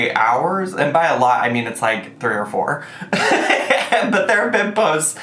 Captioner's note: laughing